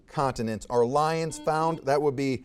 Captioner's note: buzzer beeps